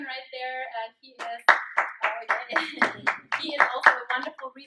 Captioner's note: applause